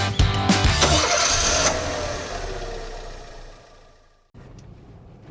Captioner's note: engine starts